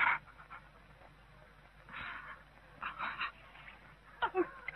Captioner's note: crying